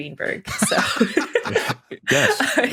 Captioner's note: laughter